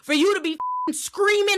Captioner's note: beep